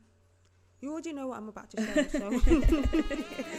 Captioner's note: laughter